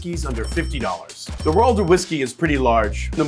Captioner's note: cash register dings